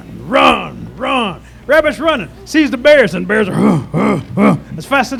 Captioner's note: grunting